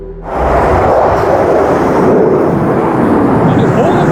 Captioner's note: aircraft roaring overhead